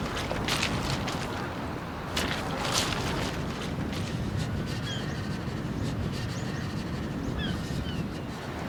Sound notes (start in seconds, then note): 4.0 labored breathing